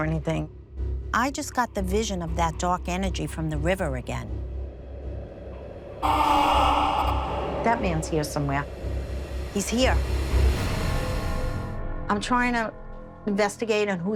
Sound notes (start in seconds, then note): 6.0 man groaning